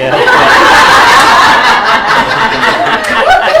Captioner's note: laughter